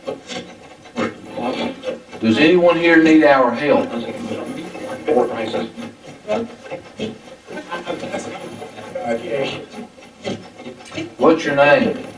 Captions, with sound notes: Does anyone here need our help? (static playback transmitting) What's your name?